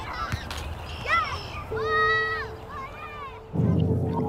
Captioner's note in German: Kinderjauchzen